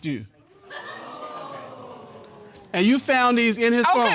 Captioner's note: audience exclaiming